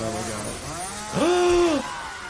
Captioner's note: gasps; chainsaw buzzing